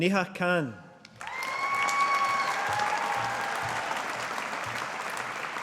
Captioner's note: audience applauding